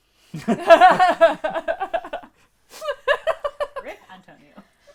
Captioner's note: laughter